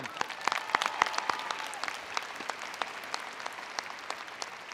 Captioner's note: attendees applauding